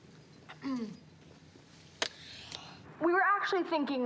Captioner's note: clears throat